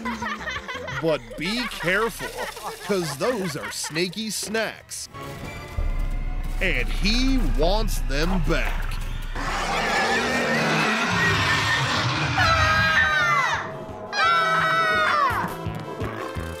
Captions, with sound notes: but be careful because those are snakey's snacks and he wants them back (screaming growls) (kids screaming)